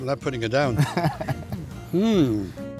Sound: laughs

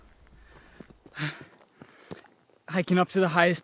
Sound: huffing sounds

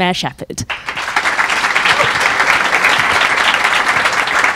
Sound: crowd clapping

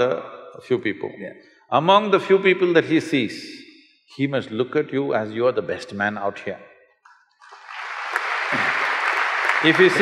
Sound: applause

